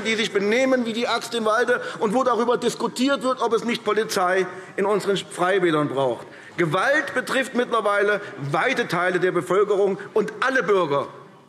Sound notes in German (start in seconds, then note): none